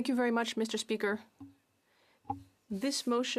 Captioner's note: speaking French